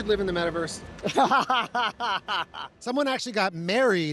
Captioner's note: laughter